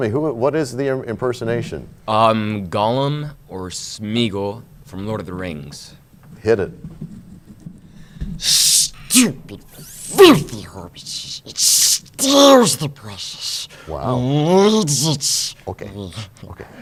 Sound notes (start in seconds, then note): 9.6 talking like Gollum